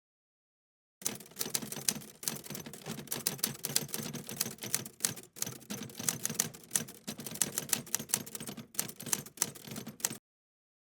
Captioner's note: typerwriter typing